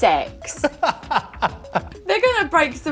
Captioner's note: laughing